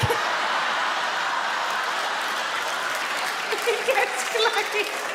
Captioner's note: audience laugh; Sarah laughs